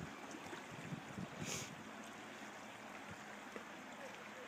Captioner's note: water flowing